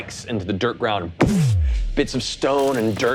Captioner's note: energy warbling